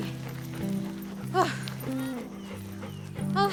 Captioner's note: Amy heavily panting; gasps